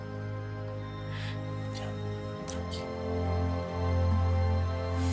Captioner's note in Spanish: Susurra